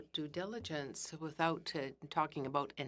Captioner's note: speaking in French